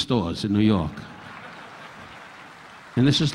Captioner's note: audience applauding